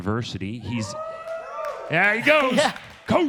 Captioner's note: audience cheers